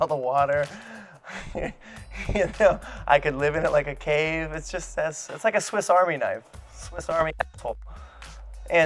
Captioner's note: laughs